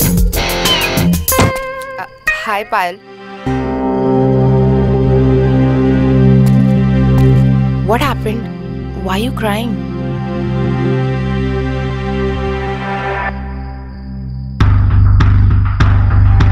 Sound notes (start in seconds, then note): 1.3 Door closing